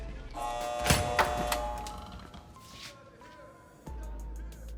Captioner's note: door buzzing